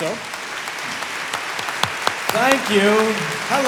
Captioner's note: audience applauding